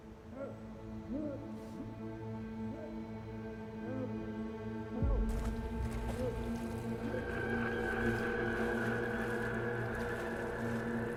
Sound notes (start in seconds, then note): 0.0 ominous music; 0.3 Stuart muffled screaming; 5.0 water splashing; 7.6 ominous music